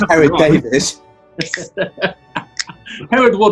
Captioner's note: laughing